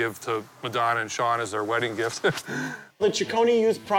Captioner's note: laughs